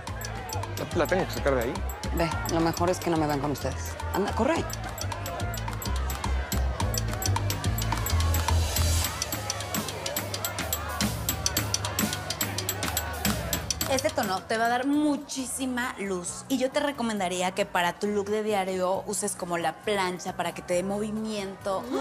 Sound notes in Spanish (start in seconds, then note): 4.9 Bullicio